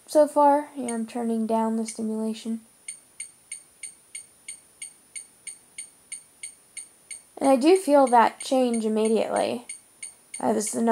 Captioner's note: beep beep beep